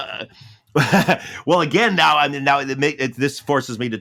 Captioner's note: laughs